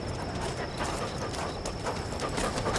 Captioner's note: crickets chirping